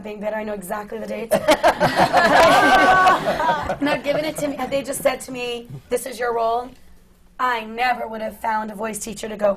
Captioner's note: laughter